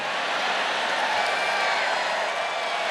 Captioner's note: cheering and applause; laughter